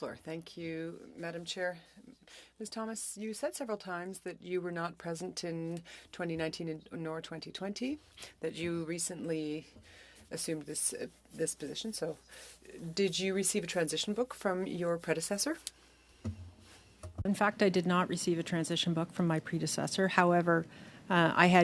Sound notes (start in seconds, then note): 3.1 speaking French